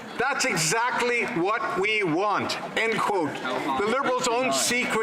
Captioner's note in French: voix de l'interprète